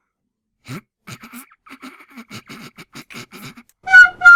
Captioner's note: holding back laughter